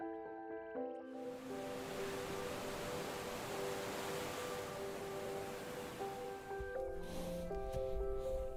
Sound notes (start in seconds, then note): 1.3 waves crash